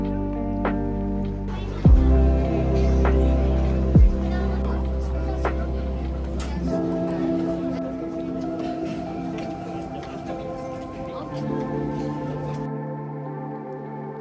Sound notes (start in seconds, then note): 10.4 laughs